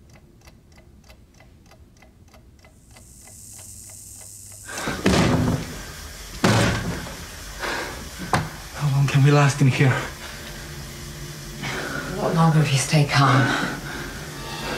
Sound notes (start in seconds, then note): 2.0 electrical buzzing